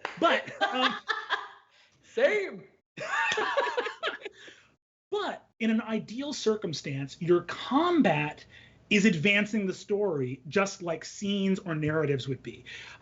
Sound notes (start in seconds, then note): 0.4 laughs; 3.0 both laugh